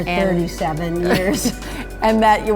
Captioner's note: both laugh